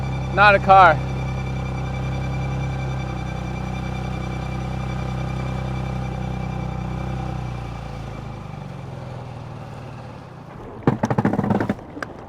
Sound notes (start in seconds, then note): 2.0 engine humming